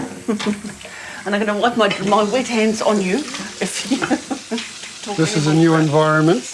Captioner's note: chuckles